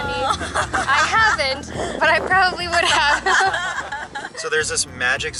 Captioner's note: laughing